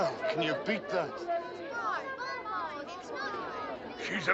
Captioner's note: chattering